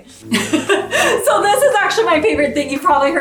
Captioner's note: laughs